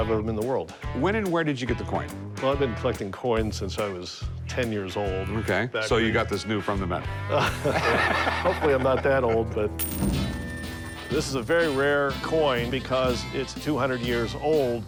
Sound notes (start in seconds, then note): 7.3 laughing; 9.8 change rattling